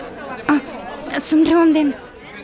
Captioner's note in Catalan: Veu interna de la Lisa